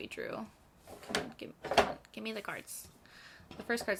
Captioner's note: clattering